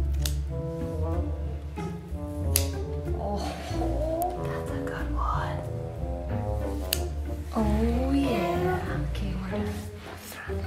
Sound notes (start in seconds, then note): 0.3 scissors snipping; 6.8 scissors snipping